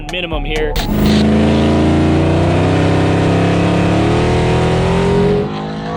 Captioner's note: race car engine revving